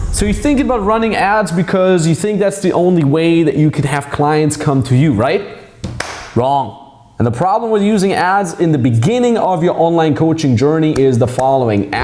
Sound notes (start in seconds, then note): 6.0 claps